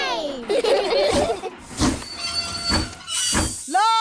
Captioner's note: train chugs; laugh